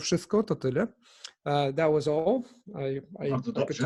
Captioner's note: in English; in Polish